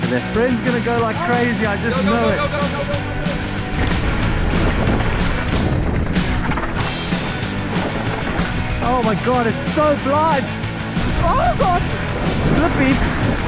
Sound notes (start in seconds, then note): 3.5 upbeat music; 6.2 bike rattling